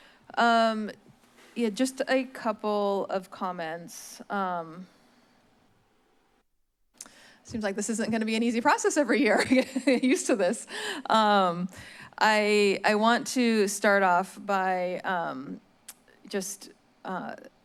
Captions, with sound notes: Um, yeah, just a couple of comments. Um... it seems like this isn't going to be an easy process every year [laughs] getting use to this. Um, , I-, I want to start off by, um, just, uh,